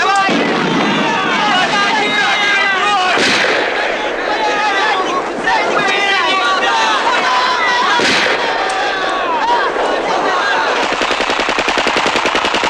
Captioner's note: shooting